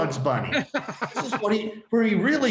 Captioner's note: laughing